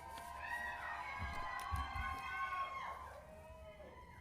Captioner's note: cheering